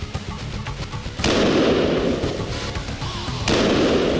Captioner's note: gunshots